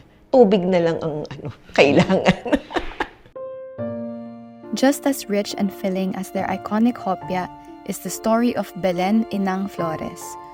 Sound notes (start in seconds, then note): 1.2 laughs